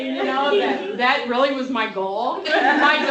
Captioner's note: laughter